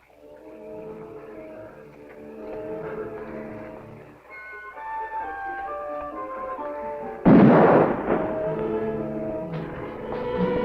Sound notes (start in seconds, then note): 0.3 tense music; 7.2 gun firing